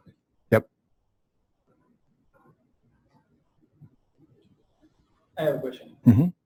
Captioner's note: pause